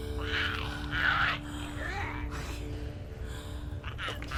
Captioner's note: Giree snarls